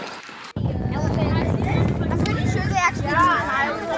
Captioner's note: kids chat